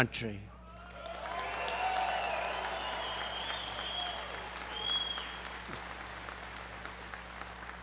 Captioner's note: applause